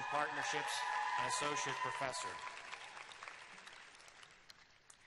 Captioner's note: cheers and applause